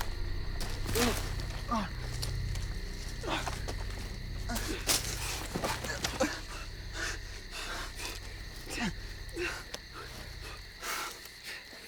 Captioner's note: groaning